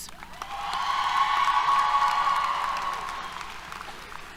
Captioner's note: applause, Cheers